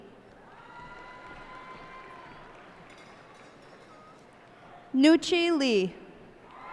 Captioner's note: cheers and applause